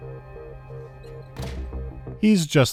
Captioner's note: clank